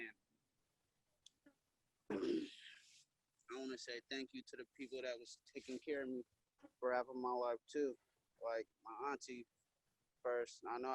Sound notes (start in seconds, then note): 2.1 throat clearing